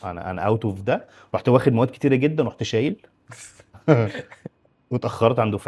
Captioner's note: laughs